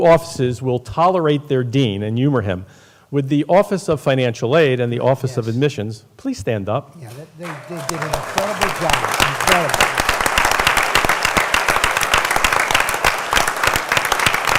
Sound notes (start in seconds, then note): 7.1 applause